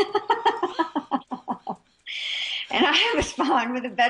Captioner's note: both laugh